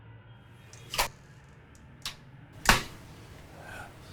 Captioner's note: door opens